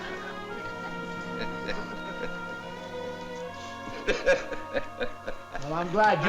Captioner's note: laughs